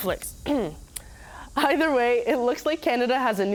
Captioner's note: coughs